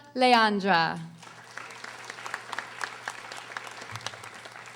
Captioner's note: audience applauding